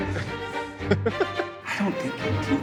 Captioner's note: laughing